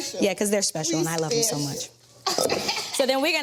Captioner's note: laughs